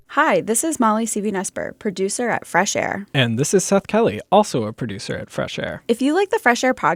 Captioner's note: As Mr. Krabs, singing